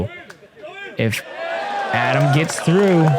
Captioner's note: cheering